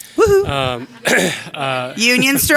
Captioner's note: clearing his throat